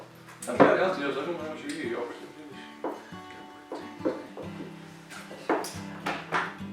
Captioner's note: chatter